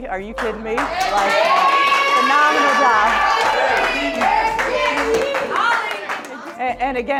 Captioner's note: applause